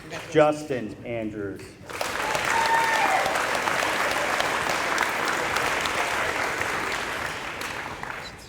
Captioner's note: applause